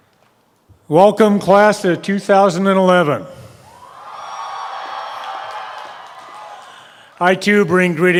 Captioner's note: crowd cheers